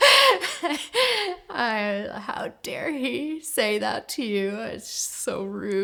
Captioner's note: laughs